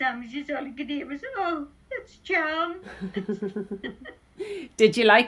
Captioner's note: laughs